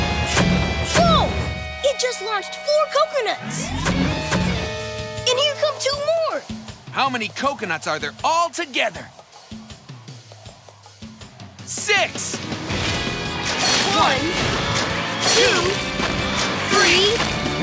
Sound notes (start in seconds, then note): none